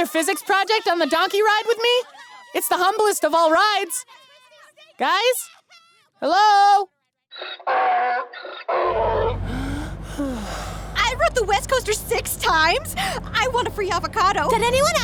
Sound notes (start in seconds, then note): 7.4 donkey braying; 9.2 sighing